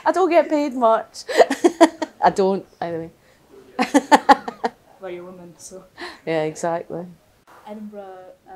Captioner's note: laughter